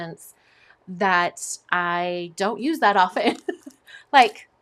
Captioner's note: chuckles